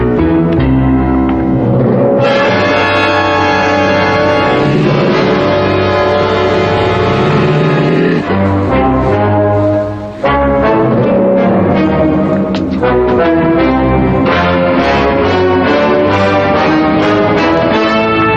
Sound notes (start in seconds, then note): 2.3 growling